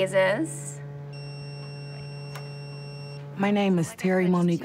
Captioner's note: machine beeps